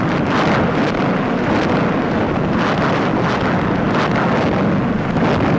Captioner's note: heavy guns firing